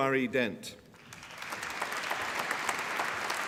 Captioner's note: applause